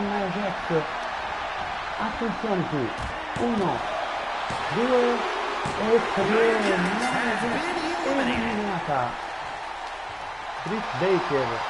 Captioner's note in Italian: Applauso